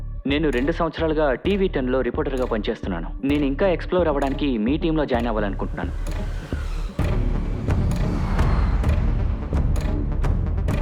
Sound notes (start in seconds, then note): 6.9 traffic whooshes